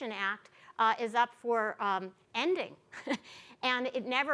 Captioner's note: chuckles